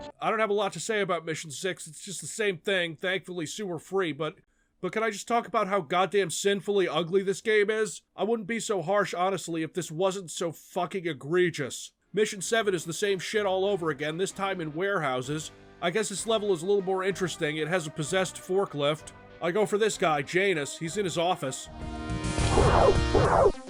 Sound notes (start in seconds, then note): 22.3 pew